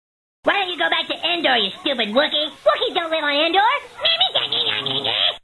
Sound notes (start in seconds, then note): 3.8 mocking